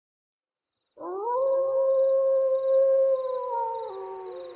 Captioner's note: creepy Wolf Howls